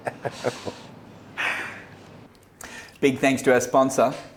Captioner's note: laughing